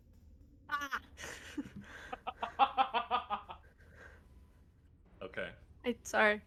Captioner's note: laughter